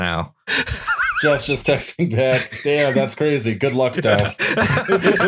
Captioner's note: laughter